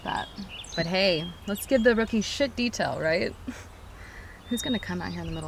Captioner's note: chuckles